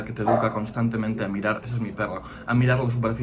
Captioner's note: barking